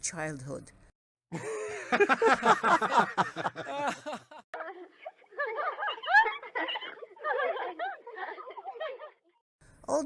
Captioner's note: family laughter